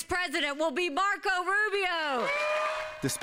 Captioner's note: cheering and applause